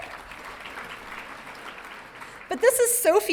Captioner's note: audience clapping